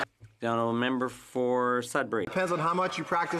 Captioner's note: some Applause